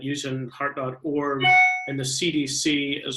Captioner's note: beeping tone